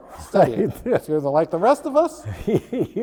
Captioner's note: laughing